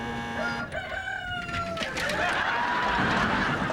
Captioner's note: rooster crowing